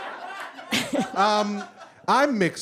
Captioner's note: audience guffaws; chuckles